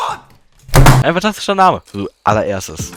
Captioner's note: slam